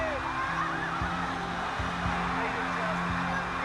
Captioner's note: wind blowing